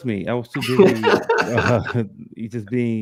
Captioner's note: laughs